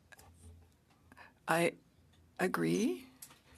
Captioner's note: speaking French